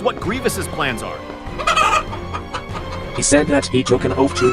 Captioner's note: chicken bawk noises